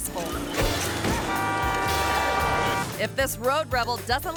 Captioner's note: horn honking